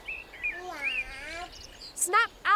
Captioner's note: baby cooing